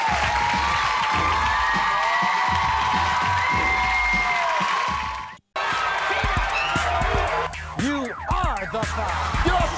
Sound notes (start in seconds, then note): 0.0 cheering